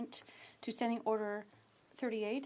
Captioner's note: speaking French